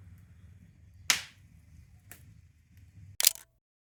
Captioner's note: fire crackling